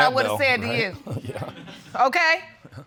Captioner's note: chuckles